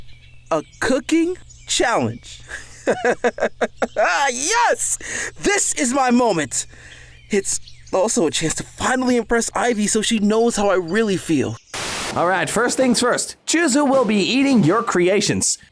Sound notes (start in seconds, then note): 2.4 chuckles